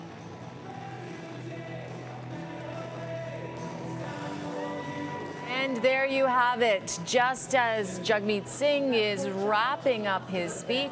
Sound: cheering and Applause

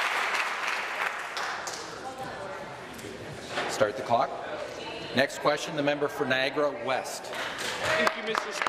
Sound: applause

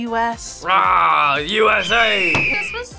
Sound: eagle screeches

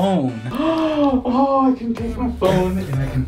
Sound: gasp

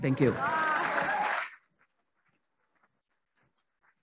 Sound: applauding

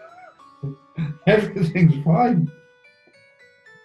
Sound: laughing

